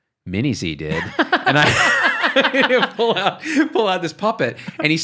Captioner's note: laughs